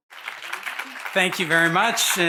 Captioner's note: audience applauding